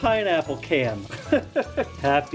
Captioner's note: laughing in pain